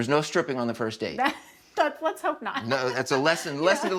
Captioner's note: laughs